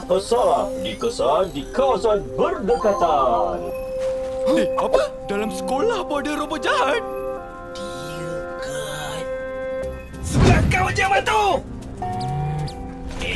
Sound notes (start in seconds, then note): 3.7 Mechanizer beeping; 6.5 Mechanizer beeping